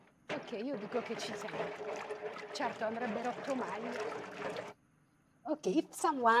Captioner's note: speaking foreign language